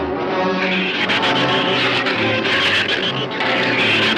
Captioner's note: shrews screech